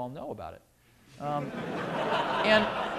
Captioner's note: laughter